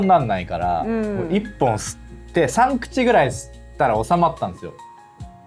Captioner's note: laughs